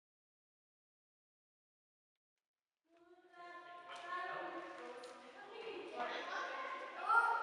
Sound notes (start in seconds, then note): 3.9 sound of voices, general chatter